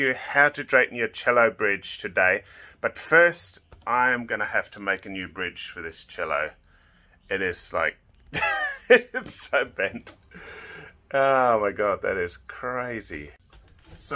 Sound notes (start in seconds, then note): 8.3 laughing